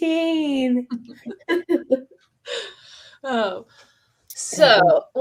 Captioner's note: laughter